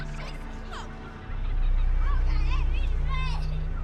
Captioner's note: engine noises; turkeys gobble; kids chatter